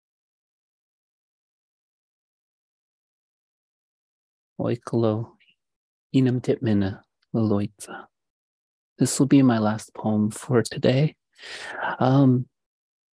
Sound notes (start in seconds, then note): 4.6 speaking in indigenous language